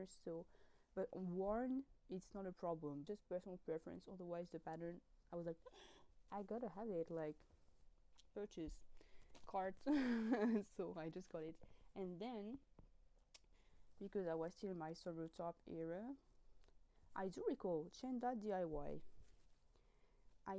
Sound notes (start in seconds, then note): 5.7 gasp